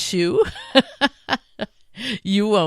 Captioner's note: laughing